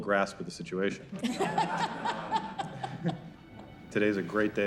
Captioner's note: crowd laughs